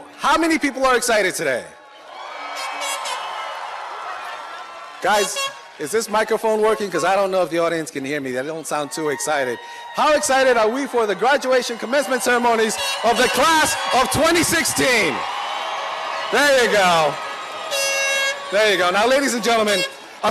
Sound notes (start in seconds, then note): 2.3 cheering; 15.3 cheering